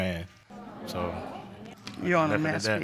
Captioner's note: audience groans